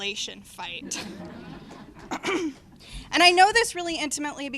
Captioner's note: laughter